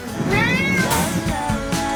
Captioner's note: screams